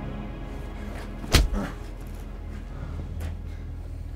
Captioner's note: groans